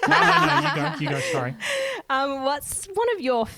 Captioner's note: laughing together